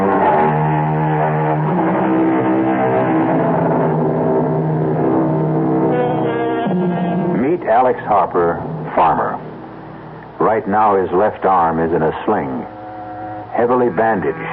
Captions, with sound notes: [Sound of a car engine] Meet Alex Harper, farmer. Right now his left arm is in a sling, heavily bandaged